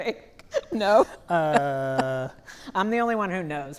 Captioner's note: laughing